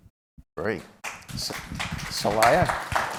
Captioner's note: applause